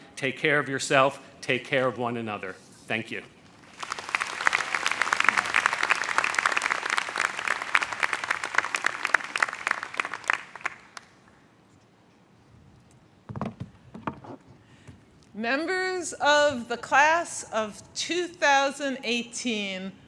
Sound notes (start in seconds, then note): 3.6 crowd applauds